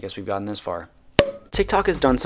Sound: champagne cork pop

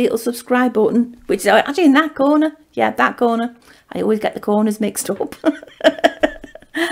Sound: laughs

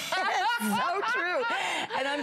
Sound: laughter

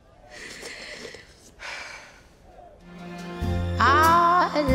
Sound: Billie inhales and exhales

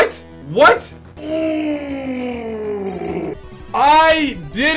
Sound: grunting celebration

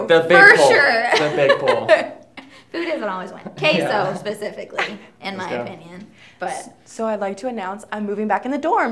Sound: laughing

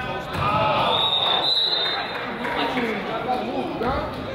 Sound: whistle blows

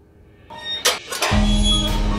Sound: latch opening

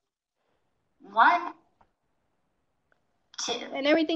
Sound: computer voiceover

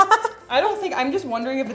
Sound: laughter

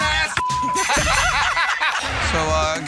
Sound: beep; dinging; laughing

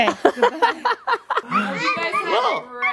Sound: laughing

